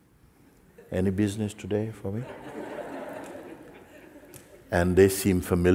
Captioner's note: Lachen